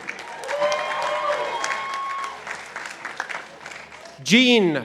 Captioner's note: participants applauding